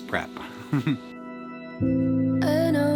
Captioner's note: chuckles